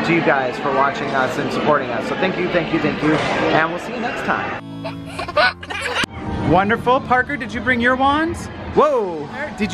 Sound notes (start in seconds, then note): 4.8 baby giggling